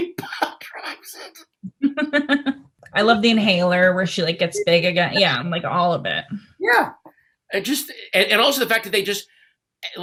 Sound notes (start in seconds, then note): 1.8 laughs